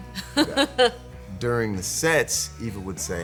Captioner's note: laughing